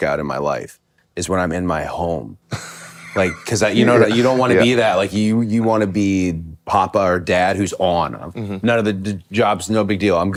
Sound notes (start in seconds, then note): 2.5 Finn laughs